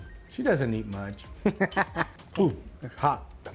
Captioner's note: laughs